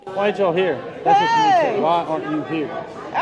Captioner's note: woman shouts